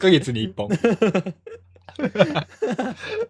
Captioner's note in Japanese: 笑い